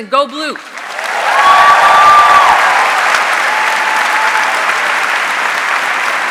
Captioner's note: audience cheering and applauding